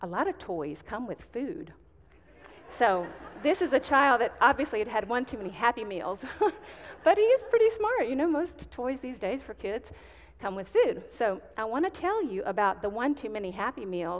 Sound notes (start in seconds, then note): 2.3 audience giggling; 6.1 chuckling